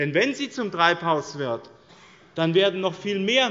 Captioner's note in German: none